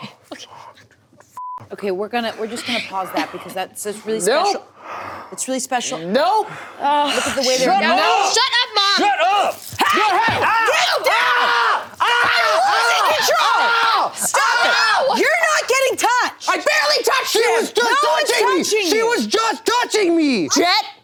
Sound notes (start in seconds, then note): 1.4 beep; 9.7 people screaming